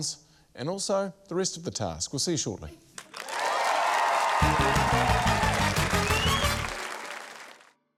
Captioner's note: cheering, applause